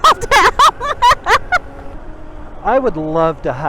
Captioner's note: laughing